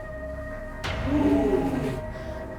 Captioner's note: gasping